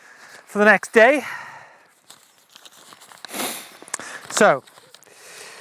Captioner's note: paper crinkles